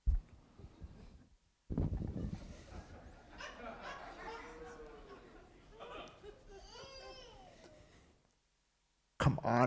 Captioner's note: audience laughing